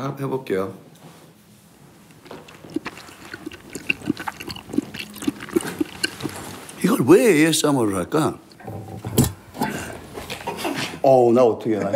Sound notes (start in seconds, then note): 2.0 eating